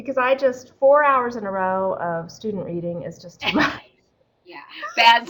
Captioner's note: laughing